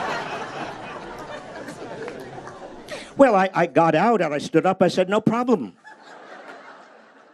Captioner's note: laughter